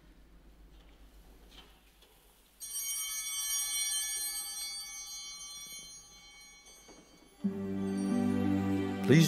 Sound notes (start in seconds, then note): 2.7 bell ringing